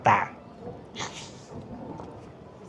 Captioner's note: laughs